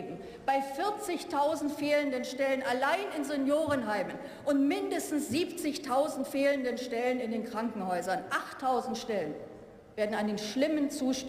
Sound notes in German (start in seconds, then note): none